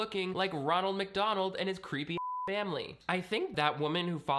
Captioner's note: beep